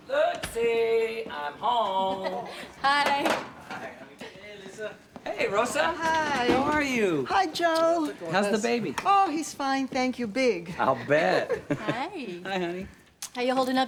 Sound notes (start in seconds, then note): 1.9 chuckles; 11.4 chuckles